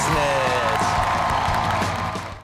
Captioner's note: audience applauding